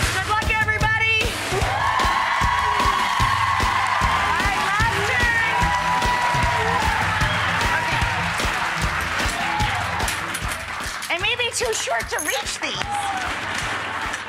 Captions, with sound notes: Good luck everybody! (cheering) Alright, last turn. Okay. I may be too short to reach these.